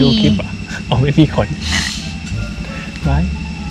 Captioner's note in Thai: ขำ